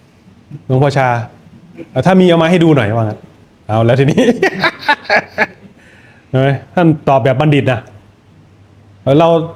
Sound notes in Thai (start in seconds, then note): 4.2 เสียงหัวเราะ